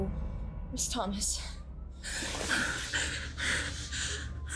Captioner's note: whimpers